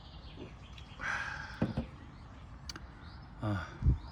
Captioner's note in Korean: 한숨